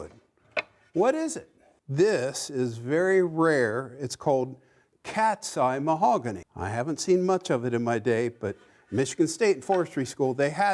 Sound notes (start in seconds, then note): none